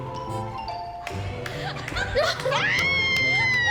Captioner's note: laughs; screams and laughter